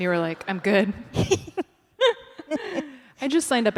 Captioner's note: laughter